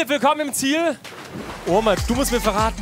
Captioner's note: Plätschern